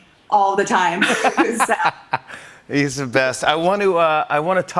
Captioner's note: laughing